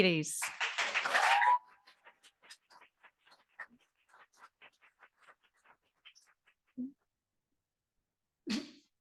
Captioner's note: audience applauding